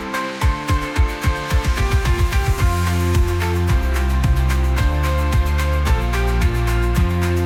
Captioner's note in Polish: Aplauz